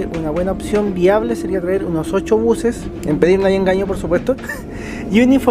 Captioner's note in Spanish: risas